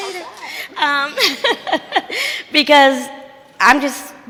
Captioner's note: chuckles